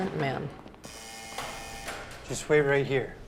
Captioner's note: doors buzzing